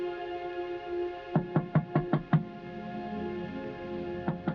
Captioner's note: knuckles tapping